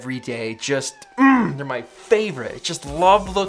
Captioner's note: grunts